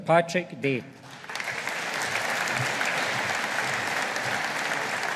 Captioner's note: audience applauding